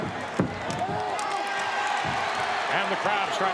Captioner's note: audience cheers